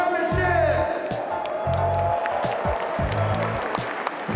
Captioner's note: cheers